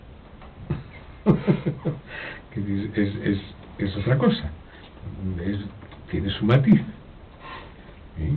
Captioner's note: laughs